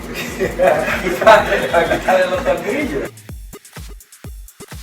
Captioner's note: laught